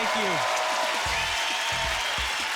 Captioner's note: cheering and applauding